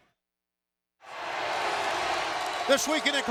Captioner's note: crowd cheering